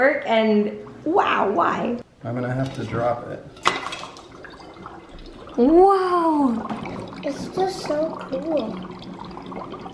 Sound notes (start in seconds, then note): 3.6 water bubbling